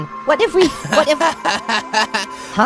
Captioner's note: Coiny laughs